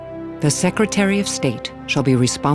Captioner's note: woman reciting